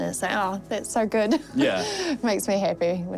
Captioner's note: chuckles